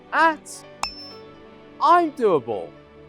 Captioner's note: pop ding